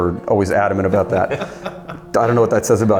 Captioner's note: laughing